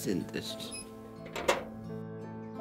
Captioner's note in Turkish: Kapı sesi